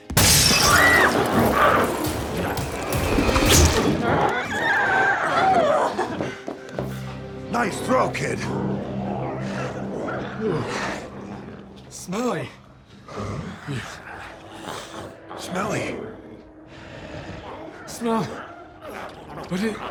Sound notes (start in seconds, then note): 0.0 glass shatters; 0.1 Chalee screams; 4.5 glowzie shrieks